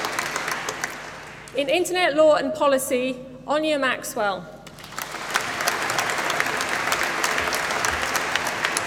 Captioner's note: applause